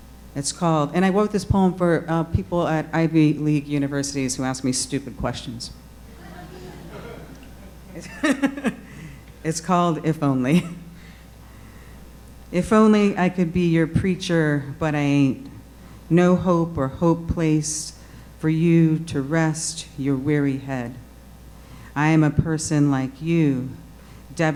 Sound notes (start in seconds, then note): 6.0 audience laughing